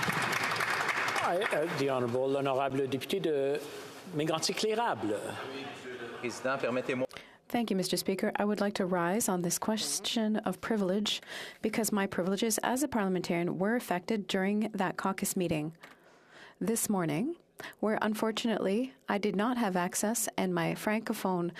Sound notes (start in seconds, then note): 8.1 speaking French